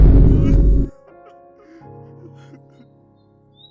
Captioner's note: crying Softly